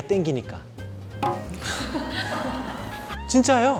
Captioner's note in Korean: 모두 웃음